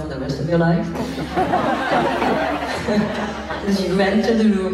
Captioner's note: laughs